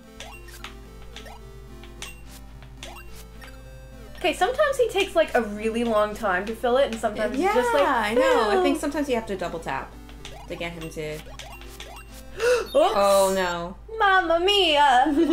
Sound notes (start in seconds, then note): 12.3 gasp